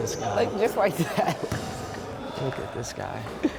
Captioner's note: laughing